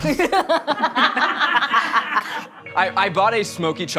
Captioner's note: all laughing